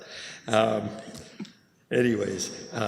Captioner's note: chuckles